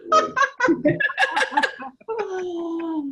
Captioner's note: laughs